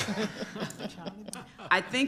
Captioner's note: group laughter